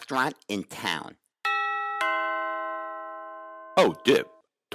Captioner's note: bell dings